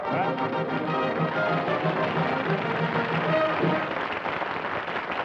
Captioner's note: applause